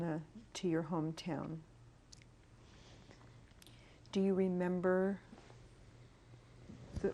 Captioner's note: pauses for 3 seconds